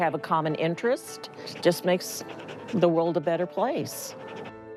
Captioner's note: dog panting; light upbeat music